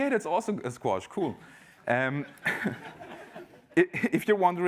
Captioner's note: laughter